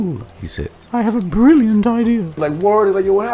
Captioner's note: in squeaky voice